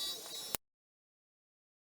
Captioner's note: click